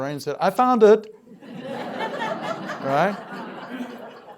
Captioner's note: laughter